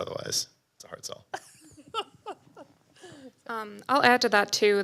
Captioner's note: laughs